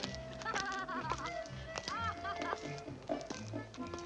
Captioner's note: woman laughs